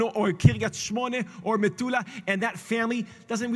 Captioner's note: Hebrew; Hebrew